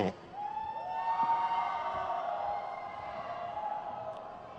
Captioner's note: crowd cheers